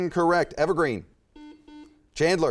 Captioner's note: buzzer chimes